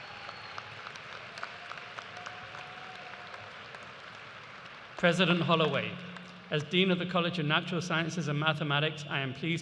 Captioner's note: cheers and applause